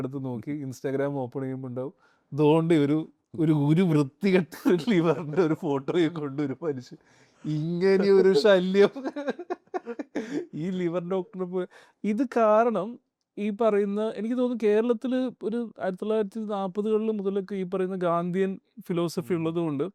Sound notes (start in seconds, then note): 7.5 laughing